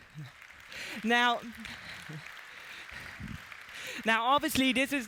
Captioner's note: applause